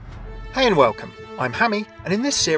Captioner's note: voiceover